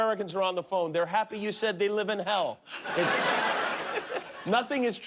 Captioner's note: laughter